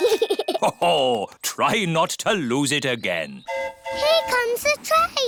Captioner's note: giggles; train horn hooting